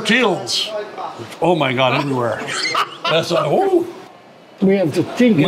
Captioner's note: all laugh